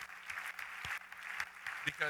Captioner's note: applause